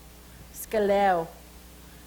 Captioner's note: speaks Salish